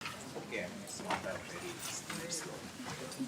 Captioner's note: chatter